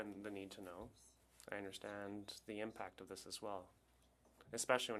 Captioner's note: speaking French